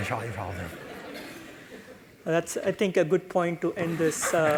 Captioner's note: laugh